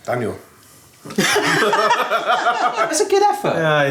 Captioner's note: they laugh